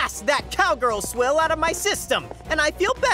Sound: tense orchestral music; footsteps tapping

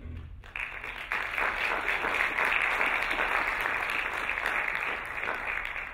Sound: applauding

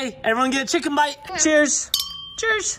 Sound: sound of glasses clinking

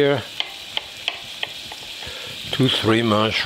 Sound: knife clicks

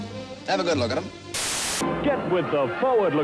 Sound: static hisses

